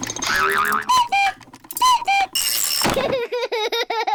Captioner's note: panting; clock cuckoos; laughs